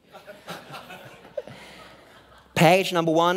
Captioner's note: laughing